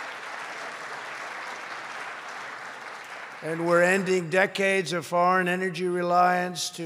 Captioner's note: applause